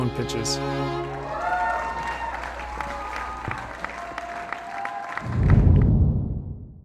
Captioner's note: applause